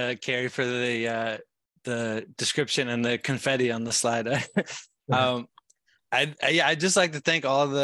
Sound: chuckling

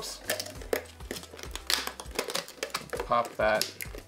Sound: cups creaking

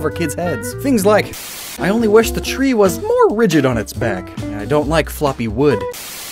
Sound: Static

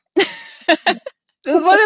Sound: laughing

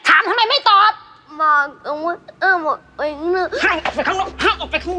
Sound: stuttering

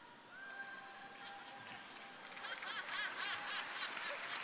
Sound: audience cheering

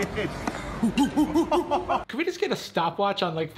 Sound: monkey noises

